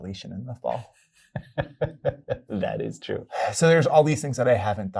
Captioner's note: laughs